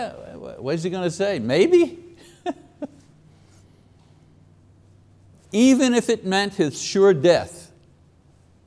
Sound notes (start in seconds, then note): 2.2 chuckles